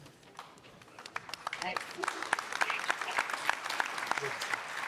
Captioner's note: audience applauding